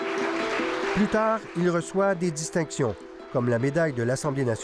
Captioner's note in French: applaudissements